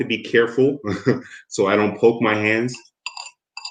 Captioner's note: chuckles